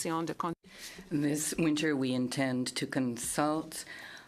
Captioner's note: speaking in French